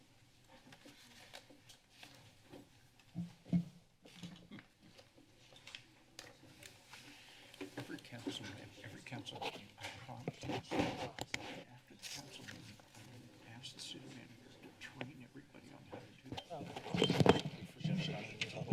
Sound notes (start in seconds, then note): 0.5 paper rustling; 6.4 paper rustling; 8.2 chatter; 16.5 mic scratches; 17.8 chatter continues